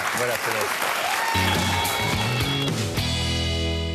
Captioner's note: applause